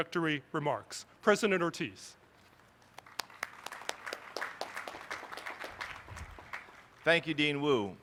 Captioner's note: applause